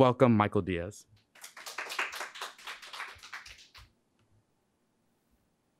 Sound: audience clapping

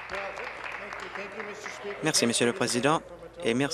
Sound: applause

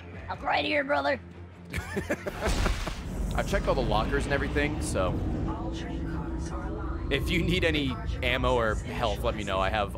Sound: laughs

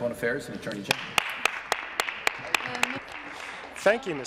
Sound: applause

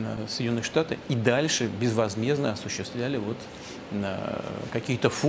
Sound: Putin speaking in Russian

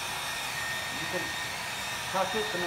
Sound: hairdryer noises

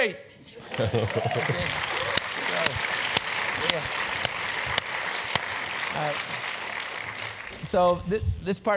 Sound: applause

